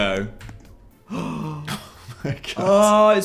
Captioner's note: gasp